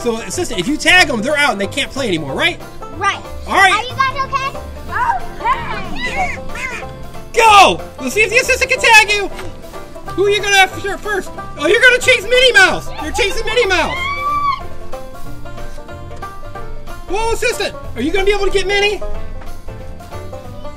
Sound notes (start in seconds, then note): 13.8 screams; 15.6 lively banjo music